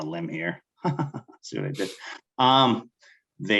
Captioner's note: chuckling